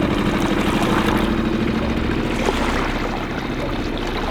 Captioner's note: water splashing